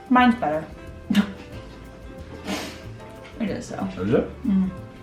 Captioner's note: jazzy music; laughing